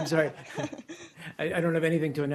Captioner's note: laughter